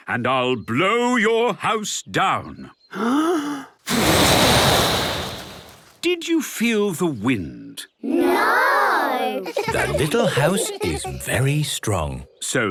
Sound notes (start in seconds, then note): 2.9 inhaling deeply; 3.8 blowing; 9.2 laughter